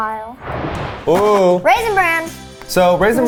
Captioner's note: animated explosion booming; cereal box thudding